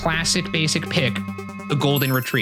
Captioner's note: bell dinging